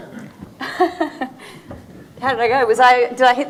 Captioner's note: laughing